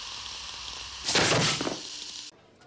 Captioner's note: sparks crackling; thud